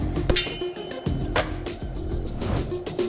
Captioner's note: sword clinks; sword whooshing